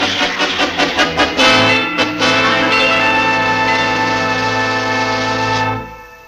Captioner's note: train Signal, signals train on the way